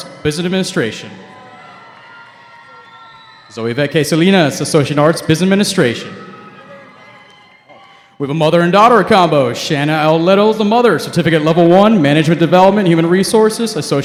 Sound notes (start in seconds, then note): 1.6 cheering